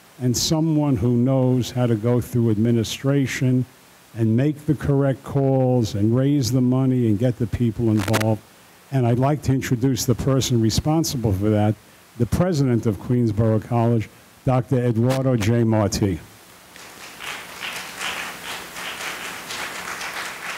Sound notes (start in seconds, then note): 16.7 audience applauding